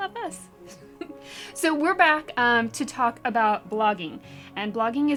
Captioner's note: laugh